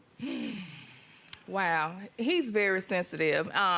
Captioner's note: sighs